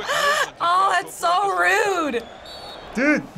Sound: ref blowing whistle

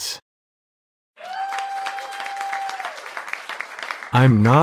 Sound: applause

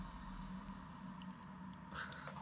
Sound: laughs

